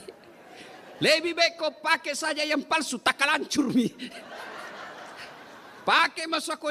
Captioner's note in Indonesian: tertawa